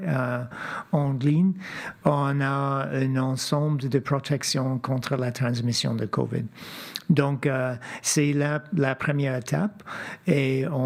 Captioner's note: speaking French